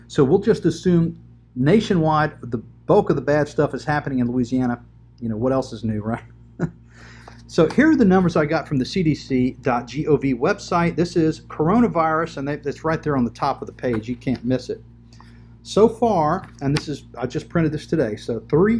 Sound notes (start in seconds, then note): 6.5 chuckles